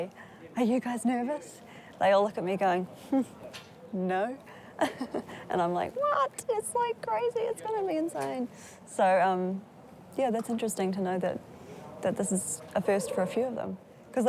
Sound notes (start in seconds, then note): 4.8 laughs